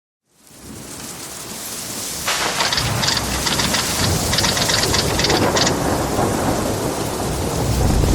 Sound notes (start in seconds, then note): 0.2 rain and storm sounds; 2.4 typewriter sound